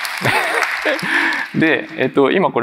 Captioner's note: applause; laughs